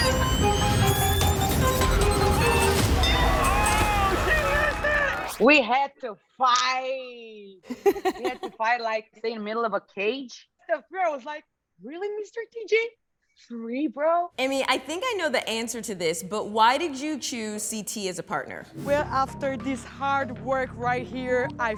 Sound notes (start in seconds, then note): 0.0 intense, suspenseful music; 3.1 bell dings